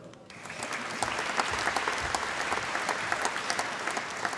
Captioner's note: applause